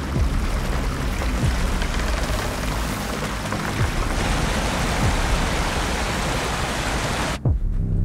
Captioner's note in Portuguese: som de um rio